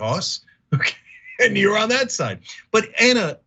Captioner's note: laugh